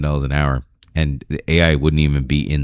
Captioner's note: uh